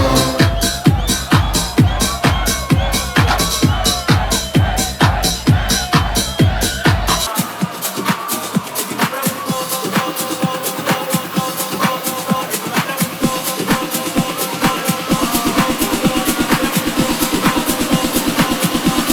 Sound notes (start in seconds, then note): 0.5 upbeat tech music; 3.7 crowd chanting; 7.5 upbeat tech music